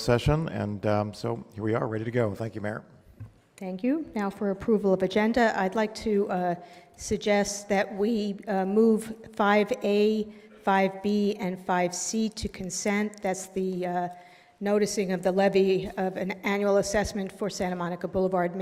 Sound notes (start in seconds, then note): none